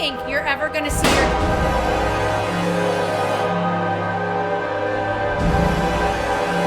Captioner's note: tense music; gunshot blasting